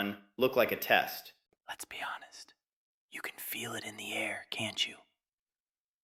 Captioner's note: whispers